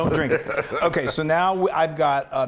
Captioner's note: laugh